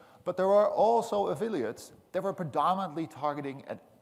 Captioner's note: none